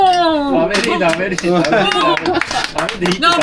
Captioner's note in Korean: 자동 박수